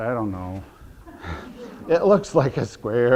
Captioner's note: audience laughter